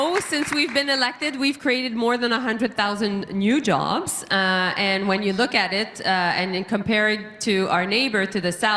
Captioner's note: applause